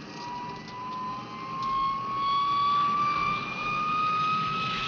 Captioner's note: plane whirring